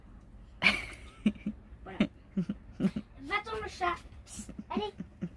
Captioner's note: laughs